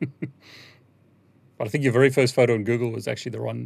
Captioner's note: laughs